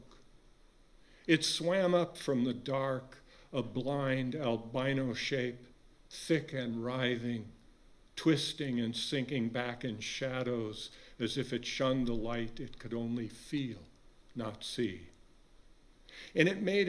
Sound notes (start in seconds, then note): none